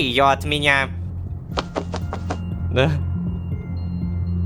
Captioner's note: goose flaps wings